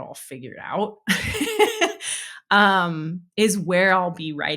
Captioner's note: laughing